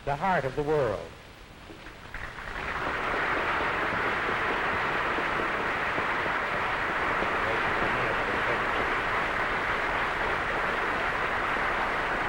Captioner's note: applause